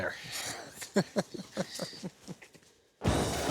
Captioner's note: chuckles